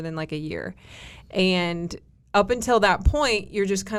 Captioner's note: none